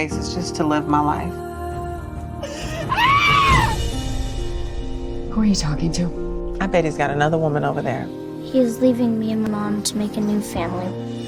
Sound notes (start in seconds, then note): 2.5 screams